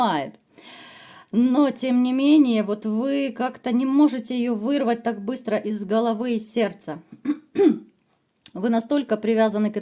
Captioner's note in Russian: откашливается